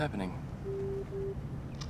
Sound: phone beeps

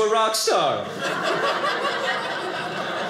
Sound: audience laughing

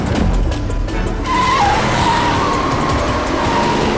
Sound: tires squealing

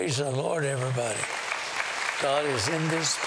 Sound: applause

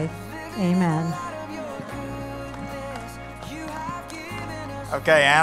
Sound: applause

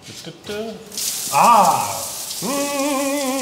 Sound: water splashing

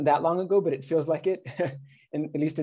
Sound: laughter

